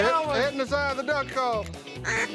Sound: duck calls

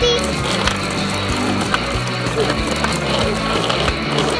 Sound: wheels on sidwalk

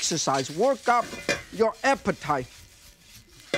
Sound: wok clinks

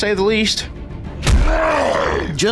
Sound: growl

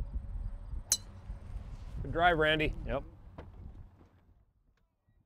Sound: ping!

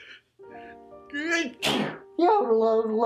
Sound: sneezes

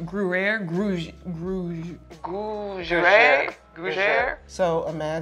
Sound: muttering

